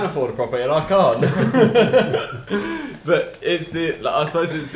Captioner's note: laughs